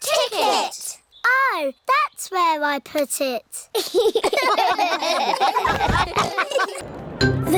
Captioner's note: all laugh